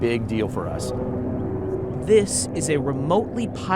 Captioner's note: plane engine humming